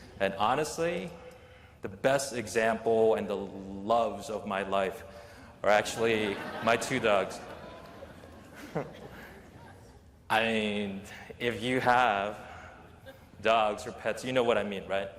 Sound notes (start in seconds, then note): 5.8 laughter